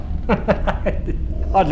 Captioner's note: laughing